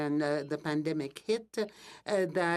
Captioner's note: speaking French